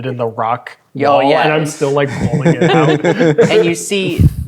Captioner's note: speaking quietly